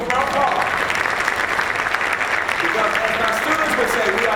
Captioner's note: applause